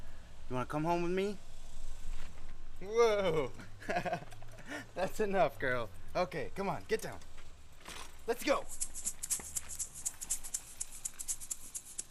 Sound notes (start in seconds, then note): 3.1 laughs; 8.7 light playful music